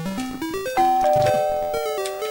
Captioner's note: doorbell noise